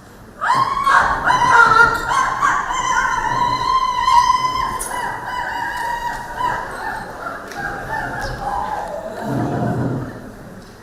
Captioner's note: hysterical screaming